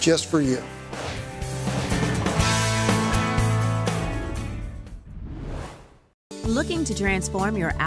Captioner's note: whoosh